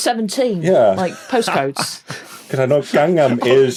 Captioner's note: laughs